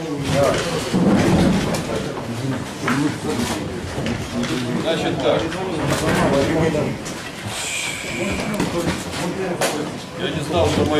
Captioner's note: sighs deeply